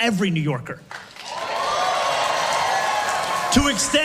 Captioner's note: massive crowd cheer